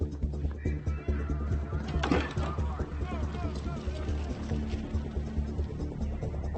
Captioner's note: people shouting in distance; tense music continues